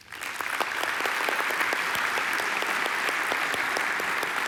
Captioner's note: applause